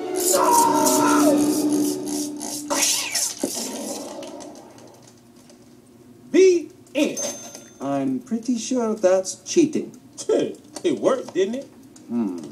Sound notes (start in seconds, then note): 2.8 screeches; 7.1 cash register dings; 12.0 scoffs